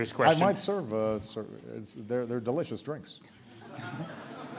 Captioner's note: laughter